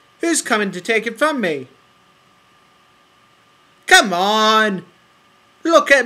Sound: silence

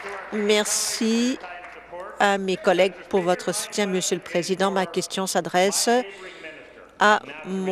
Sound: applause

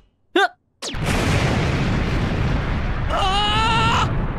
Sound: boooom!!

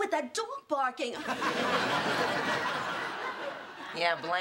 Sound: laughter

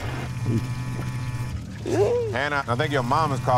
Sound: phone vibrating

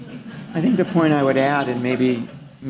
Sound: laughter

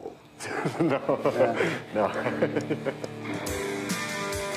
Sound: laughs

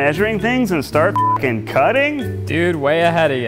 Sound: beep

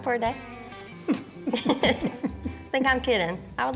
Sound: both chuckling

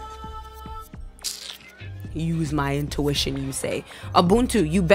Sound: kissteeth

